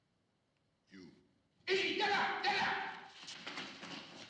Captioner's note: man shouts in turkish